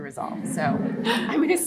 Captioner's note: audience laughing